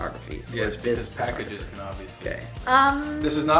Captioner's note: male Voice